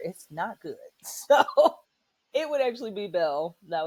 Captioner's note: laughter